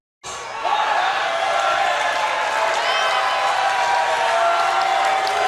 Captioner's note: cheers and boos